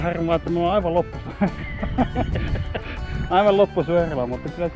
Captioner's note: both Laugh